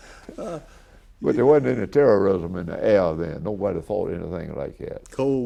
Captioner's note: laughs